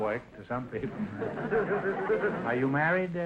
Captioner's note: audience laughter